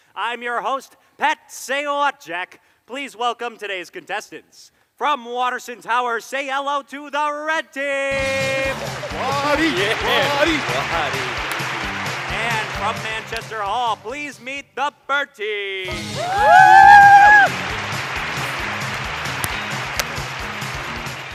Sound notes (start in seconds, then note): 15.9 cheers; 19.2 claps